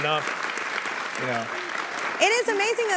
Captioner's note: audience applauding